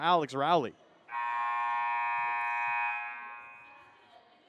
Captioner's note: buzzer; whistle blows